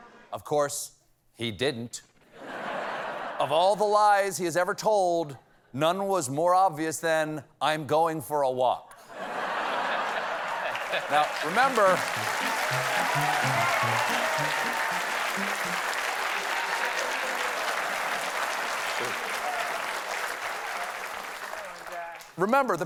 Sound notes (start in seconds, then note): 2.3 laughter; 9.0 laughter; 9.2 applause; 11.1 applause